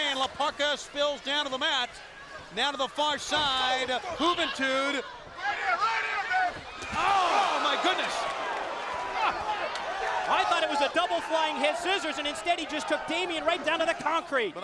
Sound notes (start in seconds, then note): 7.9 applause